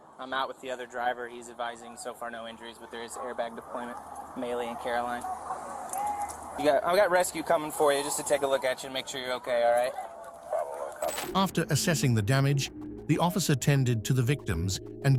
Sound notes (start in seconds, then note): 11.0 radio chatter